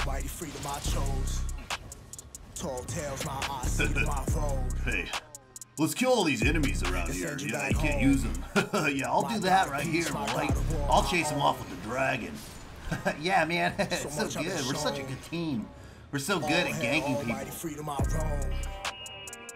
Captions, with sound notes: *Smug laughter* Hey... let's kill all these enemies around here yeah he can't use em. *Equally smug laughter* yeah I'll do that right here, buddy. I'll chase him off with the Dragon. *D&D laughter* yeah man- ha ha it's so good, we're such a good team. We're so good at ganking people.